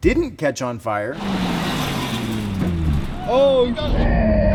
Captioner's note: car engine roars